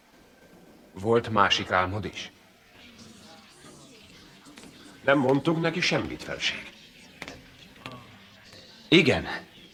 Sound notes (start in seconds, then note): 3.2 courtiers murmur